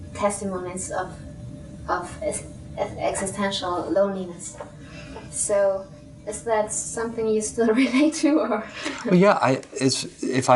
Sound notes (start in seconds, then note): 4.8 inwards breath from out of frame; 6.3 slightly laughing